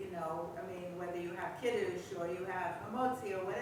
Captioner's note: hebrew